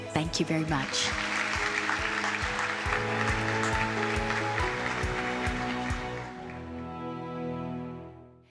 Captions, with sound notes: Thank you very much. (audience applauds) (uplifting music)